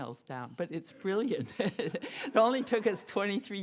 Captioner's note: laughs